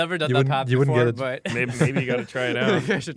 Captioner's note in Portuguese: risos